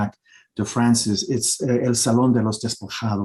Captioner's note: speaking Spanish